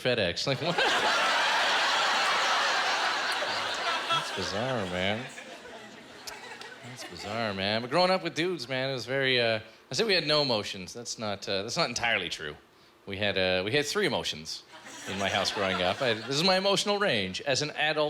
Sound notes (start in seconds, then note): 0.6 laughter